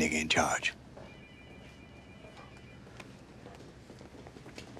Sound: phones ringing

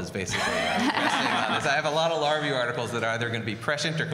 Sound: laughter

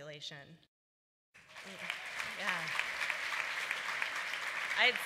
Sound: applause

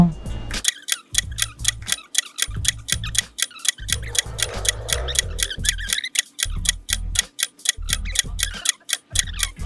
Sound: clock ticking

